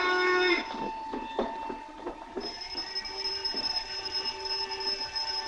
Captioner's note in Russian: звонит телефон